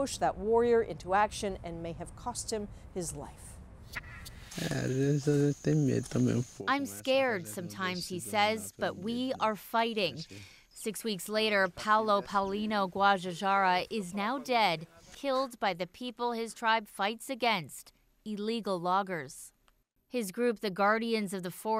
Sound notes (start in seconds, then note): 7.3 speaking foreign language